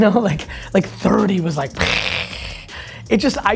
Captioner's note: imitates bomb exploding